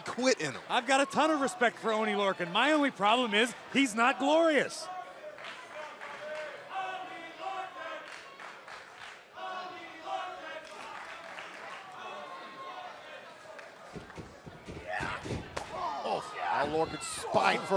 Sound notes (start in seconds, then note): 5.9 crowd cheering